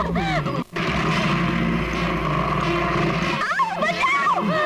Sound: motorcycle engine revving

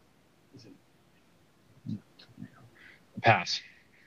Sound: students whispering

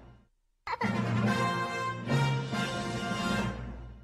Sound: fanfare plays; kid laughing as fanfare plays

